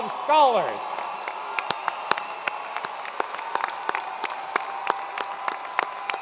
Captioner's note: attendees cheering and applauding